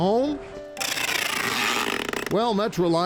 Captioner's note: tape ripping